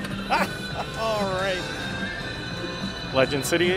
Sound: laughing

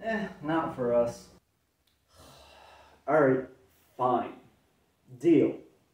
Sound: sigh

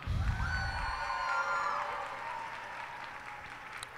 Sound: cheers and applause

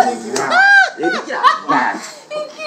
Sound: laughter

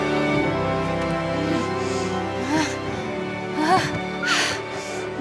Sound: grunting, groaning

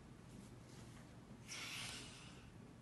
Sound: inhales

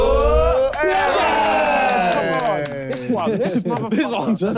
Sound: clapping

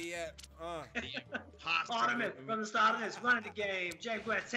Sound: laugh

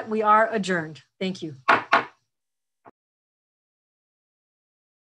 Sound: gavel bangs

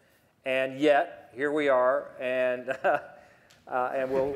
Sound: laughter

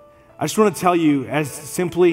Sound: none

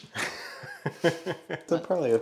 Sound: chuckles

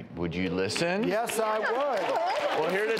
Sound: audience clapping

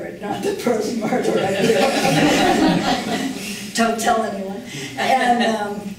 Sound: laughing

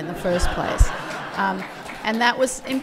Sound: laughter; applause

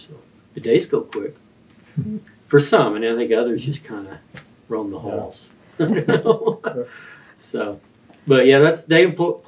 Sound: laughs

